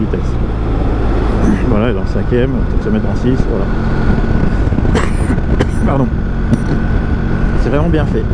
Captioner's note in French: Toux